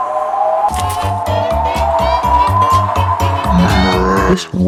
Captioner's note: super Duper Wind